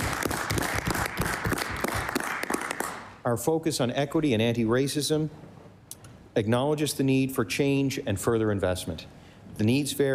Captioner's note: applause